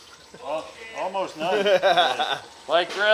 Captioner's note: laughing